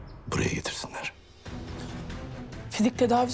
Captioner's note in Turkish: none